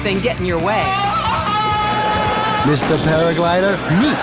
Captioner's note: Tarzan's jungle call